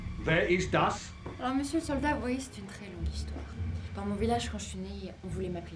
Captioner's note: Ellie speaks in French